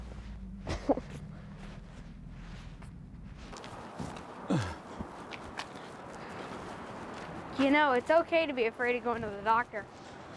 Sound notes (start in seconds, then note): 0.6 Elvis laughs; 4.4 Mercer groans